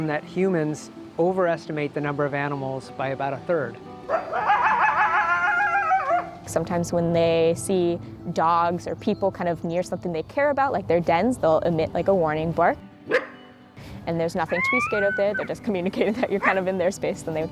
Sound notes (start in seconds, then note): 4.0 coyote barking; 12.8 coyote barks